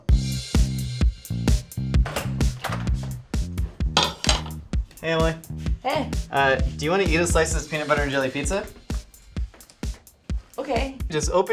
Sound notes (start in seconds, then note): 0.1 bouncy music; 4.0 plate clinking